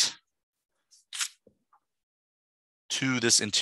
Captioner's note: page turning